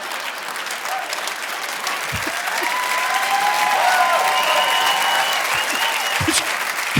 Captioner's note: audience laughing; audience cheering and applauding; chuckles